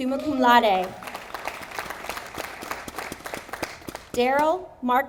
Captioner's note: audience applauding